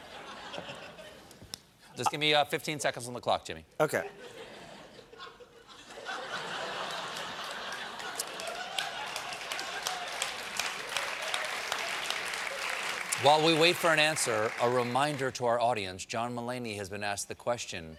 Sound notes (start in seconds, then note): 3.8 applause; 4.0 laughter